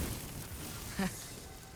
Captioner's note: laugh